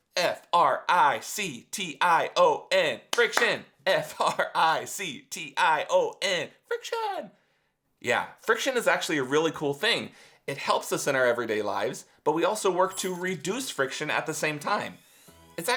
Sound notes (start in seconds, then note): 3.1 clapping; 3.9 laughing